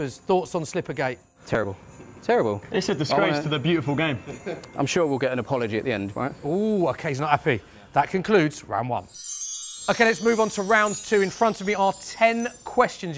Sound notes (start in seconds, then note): none